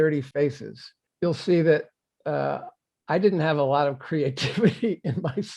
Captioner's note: laughing